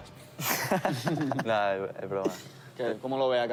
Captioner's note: laughs